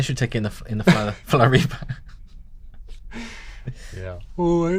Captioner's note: laughter